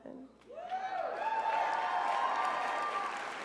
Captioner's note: crowd cheers